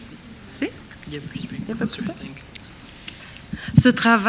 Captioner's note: speaks French; speaks faintly; speaking French